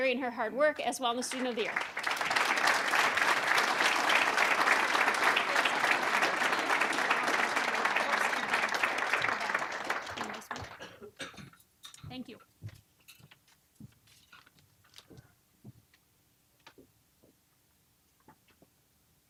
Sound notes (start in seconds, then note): 1.2 applause